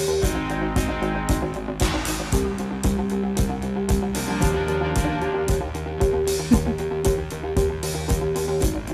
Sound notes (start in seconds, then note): 6.4 chuckles